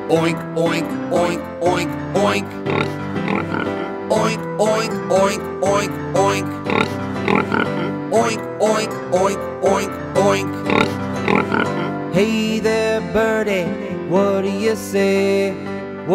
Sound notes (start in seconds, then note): 2.2 pig oinking; 6.2 pig oinking; 10.3 pig oinking